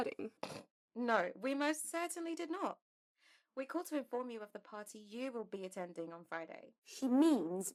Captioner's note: Mary snorts